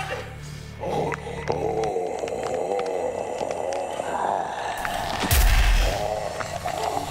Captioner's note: mummy groaning; bones cracking